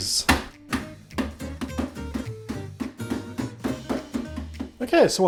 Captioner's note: smash smash smash